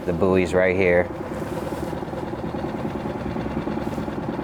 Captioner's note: motor droning